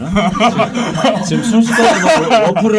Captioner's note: laughing